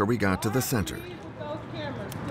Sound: shouting

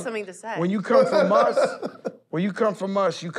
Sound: laughs

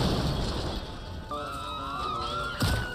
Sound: firetruck explodes; siren wails; siren thuds

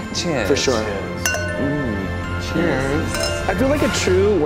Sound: glasses clink

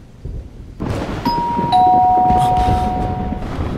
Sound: door bell rings

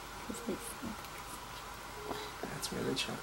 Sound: whispering

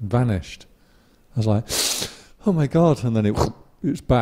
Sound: deep breath

